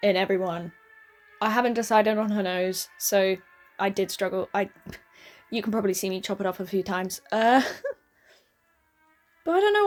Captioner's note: laughs?